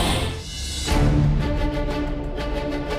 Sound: voiceover

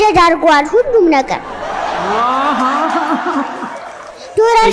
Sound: laughter

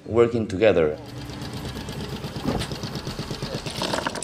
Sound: boat motor revving

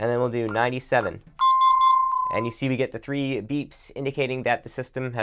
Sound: beeps

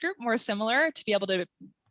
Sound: none

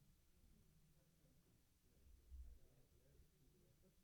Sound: none

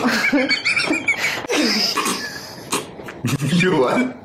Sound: suppressing laughter

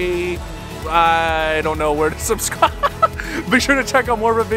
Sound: laughs

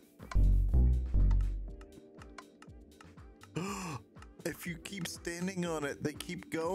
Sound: gasp

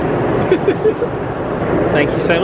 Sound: chuckling

